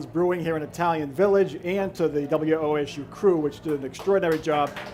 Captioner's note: applause